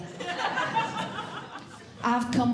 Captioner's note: audience Laughing